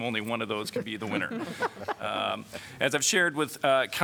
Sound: laughter

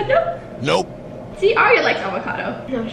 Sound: auto Voice

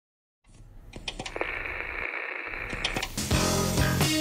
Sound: clunking noise, static

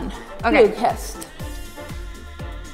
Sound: speaking in a foreign language

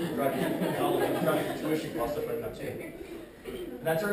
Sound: laughter

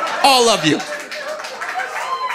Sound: audience laughing

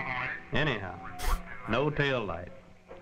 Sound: chuckle

